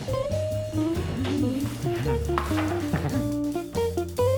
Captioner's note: giggles